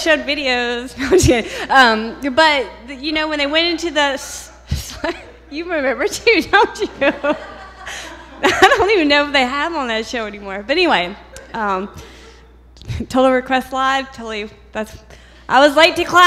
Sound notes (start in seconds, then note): 6.6 laughter